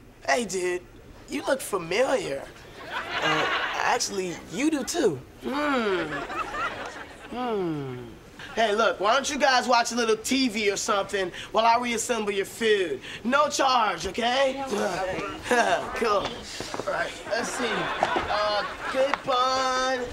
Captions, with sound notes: Hey, dude, you look familiar. Uh, actually, you do, too. Mm. Mm. Hey, look, why don't you guys watch a little TV or something while I reassemble your food? No charge. Okay? [chuckles] Cool. All right, let's see, Good Bun...